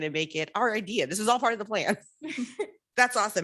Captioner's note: laughs